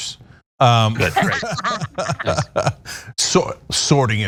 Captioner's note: laugh